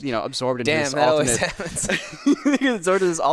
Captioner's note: laughs